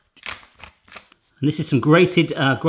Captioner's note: crunching